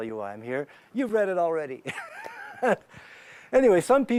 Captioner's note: laughs